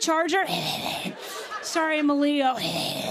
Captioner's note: growling; growling